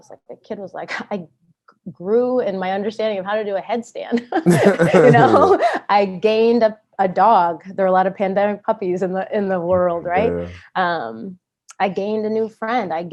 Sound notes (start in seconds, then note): 4.1 laughs